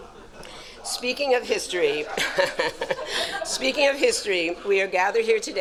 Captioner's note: audience chuckles; laughs